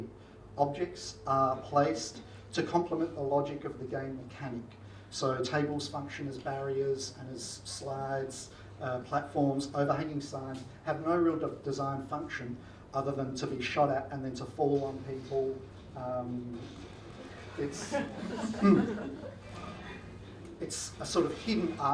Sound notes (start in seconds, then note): 17.0 audience laughs